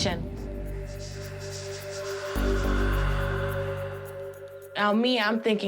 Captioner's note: whispering